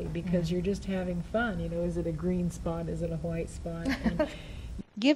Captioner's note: laughs